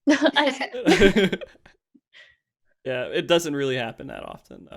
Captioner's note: laughs